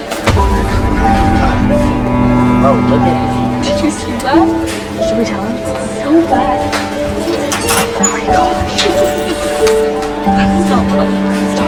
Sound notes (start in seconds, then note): 0.1 lively music; 4.4 students chatter